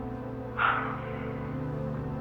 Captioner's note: Gary sigh